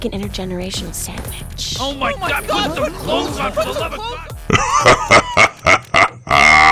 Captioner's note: big dirty laugh